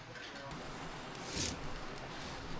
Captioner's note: drill whirring